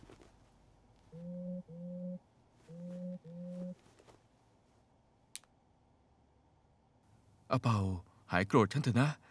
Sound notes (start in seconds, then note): 1.0 phone vibrating